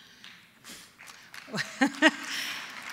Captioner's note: applause